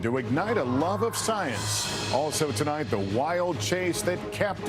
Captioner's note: cheers